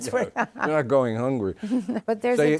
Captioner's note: laughs